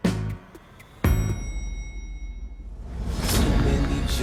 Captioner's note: elevator bell dings